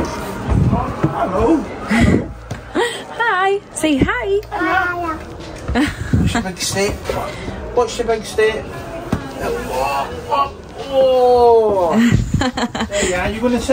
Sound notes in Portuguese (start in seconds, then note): 6.8 homem fala em inglês